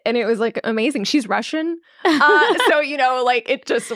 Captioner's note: laughing